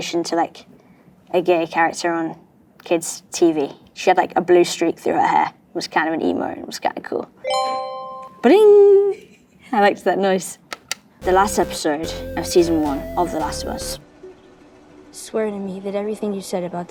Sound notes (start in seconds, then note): 7.4 tone dings